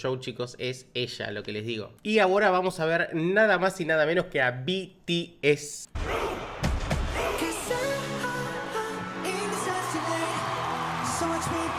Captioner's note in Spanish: grito